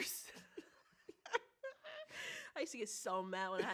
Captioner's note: both laugh